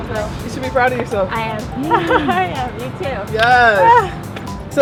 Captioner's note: laughs